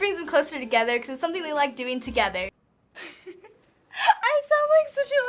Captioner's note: laughing